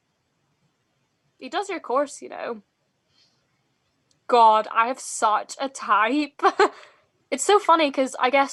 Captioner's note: laughs